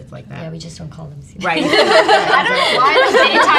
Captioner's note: all laughs